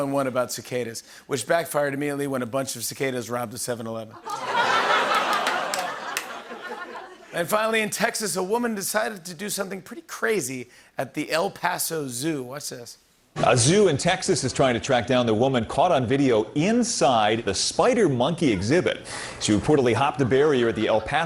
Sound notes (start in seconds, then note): 4.1 laughter